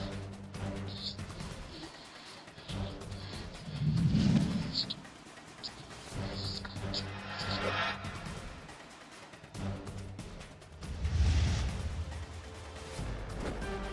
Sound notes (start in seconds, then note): 2.9 chalk scrapes